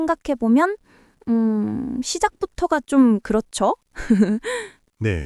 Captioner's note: laughs